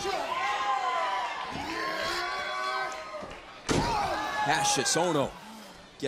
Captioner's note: crowd chatter